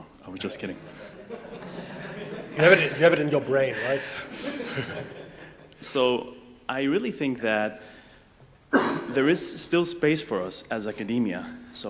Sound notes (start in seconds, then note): 0.8 audience laughs; 8.7 coughs